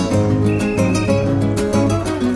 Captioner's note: whistle chirping; classical guitar music